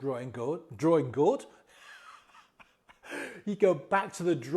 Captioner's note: laughs